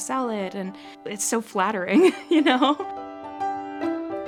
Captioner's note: chuckles; cheerful music